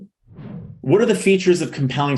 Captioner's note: air swooshing